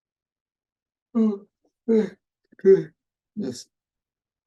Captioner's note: yawning